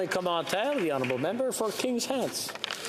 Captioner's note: applause